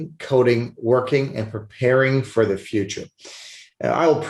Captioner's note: sniffles